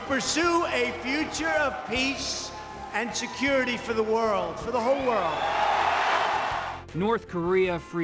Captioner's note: cheers, applause